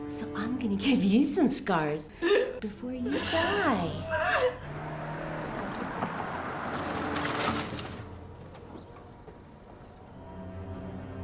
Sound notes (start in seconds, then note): 4.6 engine revving; 7.8 soft dramatic music